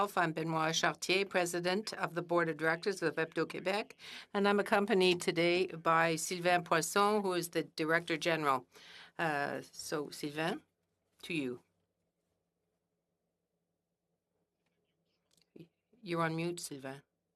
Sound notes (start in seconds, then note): 3.1 speaking French